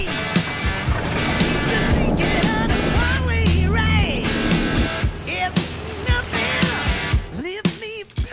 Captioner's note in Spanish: Ruido de la avioneta